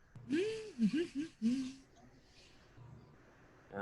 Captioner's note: humming